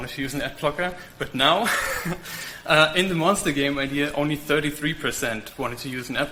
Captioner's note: laughs